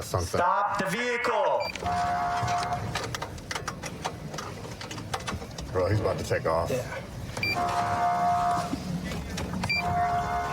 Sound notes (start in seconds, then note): 1.8 horn blaring; 7.5 horn blaring